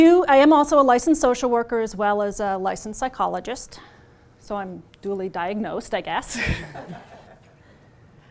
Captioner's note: chuckles